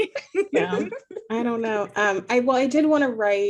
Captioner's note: laughing